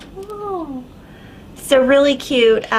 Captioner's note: awe in the background